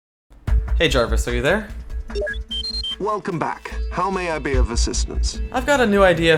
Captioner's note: beeping